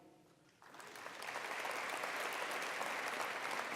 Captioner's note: applause